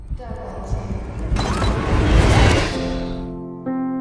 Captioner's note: distorted voices